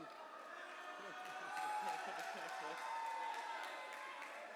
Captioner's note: cheers and applause